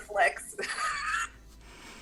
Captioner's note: laughs